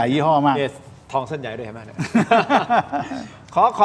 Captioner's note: laughs